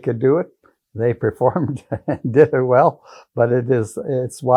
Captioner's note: chuckling